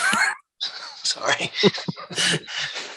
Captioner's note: laughs